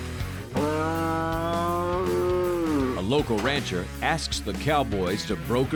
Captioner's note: cow moos